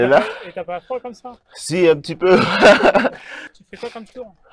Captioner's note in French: rire